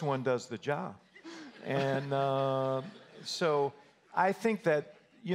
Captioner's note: audience laughter